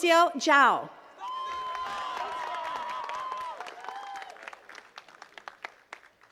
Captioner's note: attendees cheering and clapping